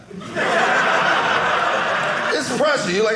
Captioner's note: audience laughing